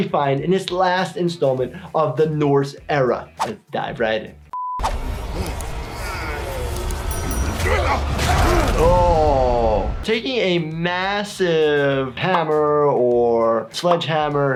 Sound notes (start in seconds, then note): 4.5 beep; 5.3 characters grunting; 7.6 blows landing